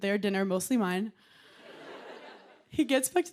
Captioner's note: laughter